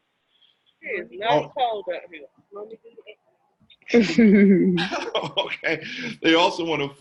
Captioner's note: multiple people speaking and laughing